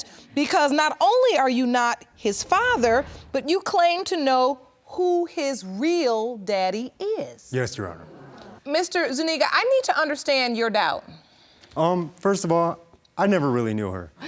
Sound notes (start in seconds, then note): none